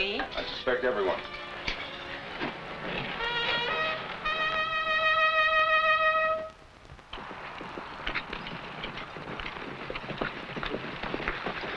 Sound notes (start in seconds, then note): 3.3 trumpet blaring; 7.8 horse hooves pattering